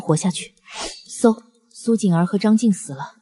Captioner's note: whoosh!